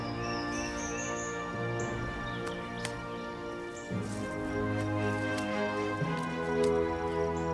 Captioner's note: birds chirping